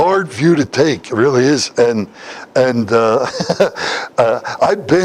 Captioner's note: Смех